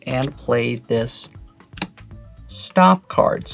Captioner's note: card slaps